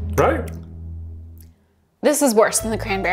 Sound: mouth smacking

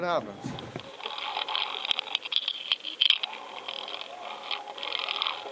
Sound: water gurgling

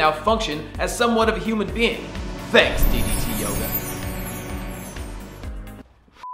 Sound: chiming

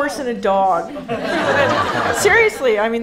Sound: audience laughing

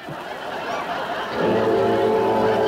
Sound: audience Laughing

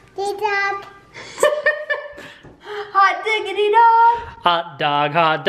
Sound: laughs

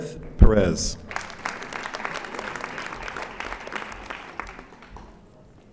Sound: audience applauding

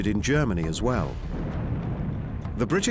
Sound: explosions

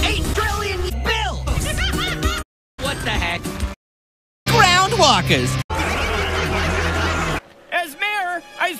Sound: laugh

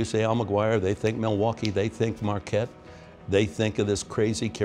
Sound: finger snap

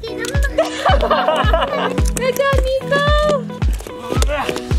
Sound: laughter

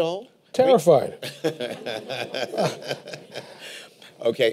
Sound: laughter

